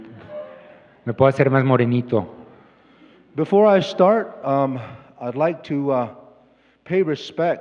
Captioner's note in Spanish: Expositor habla en inglés